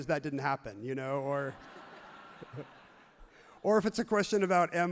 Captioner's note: everyone laughs happily